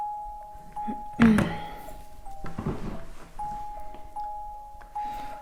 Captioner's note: Leona clears throat